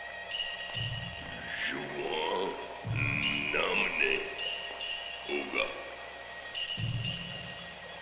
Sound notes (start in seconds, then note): 1.9 speaking in a foreign language